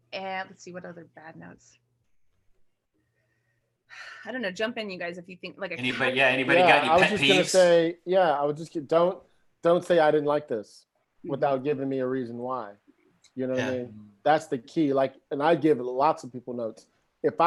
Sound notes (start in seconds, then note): 4.0 sighs